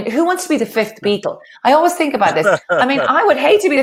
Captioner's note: laughs